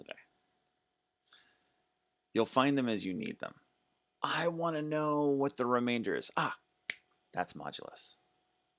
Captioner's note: snaps fingers